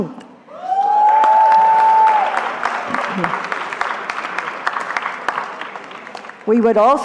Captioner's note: cheering